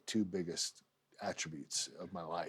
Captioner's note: none